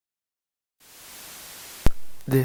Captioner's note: static crackle